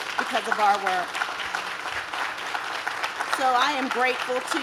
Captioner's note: audience claps